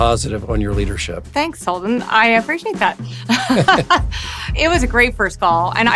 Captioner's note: laugh